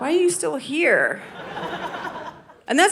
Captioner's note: audience laughing